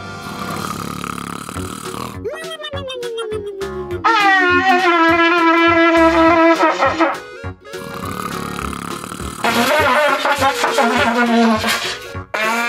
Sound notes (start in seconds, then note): 0.0 loud snoring; 4.0 trombone plays; 7.7 loud snoring; 9.4 trombone keeps playing